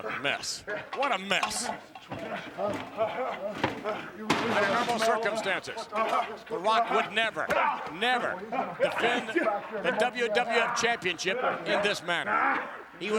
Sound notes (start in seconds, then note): 1.6 The Rock panting